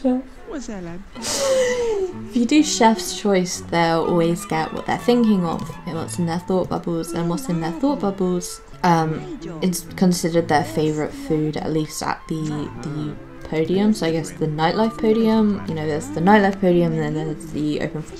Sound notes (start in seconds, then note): 1.2 chuckles; 1.2 deep breath